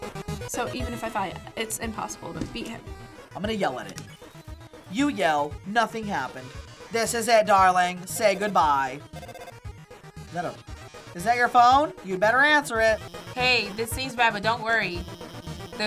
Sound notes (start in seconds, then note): 8.0 phone ringing